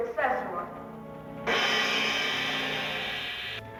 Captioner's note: gong chiming